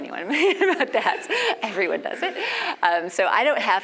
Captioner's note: laugh